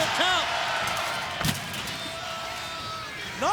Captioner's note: crowd cheering; trash can thudding